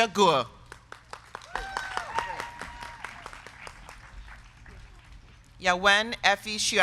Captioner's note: crowd clapping; crowd cheering